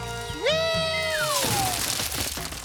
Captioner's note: crash